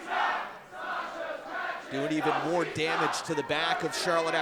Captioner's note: fans chanting